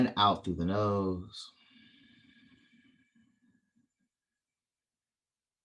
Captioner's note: exhale